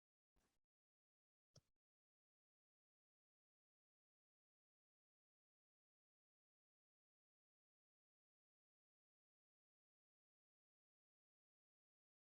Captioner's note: silence